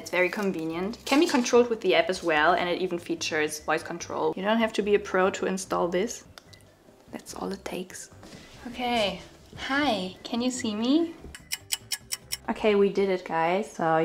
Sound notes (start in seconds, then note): 6.4 plug clicks; 11.4 clock ticking